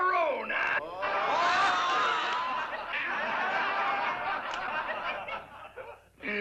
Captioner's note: laughter